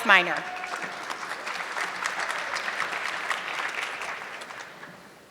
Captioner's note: audience clapping